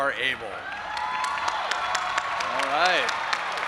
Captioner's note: audience applauding and cheering